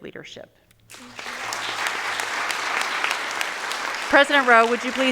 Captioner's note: audience applauding